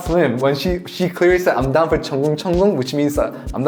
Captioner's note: splashing